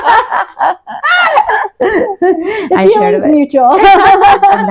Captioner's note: laughter